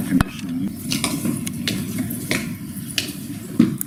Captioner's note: footsteps on stone pathway